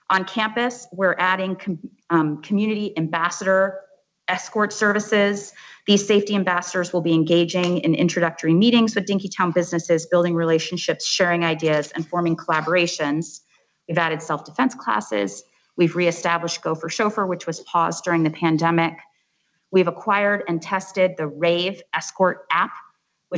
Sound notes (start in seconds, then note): none